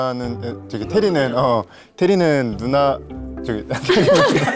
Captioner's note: stammering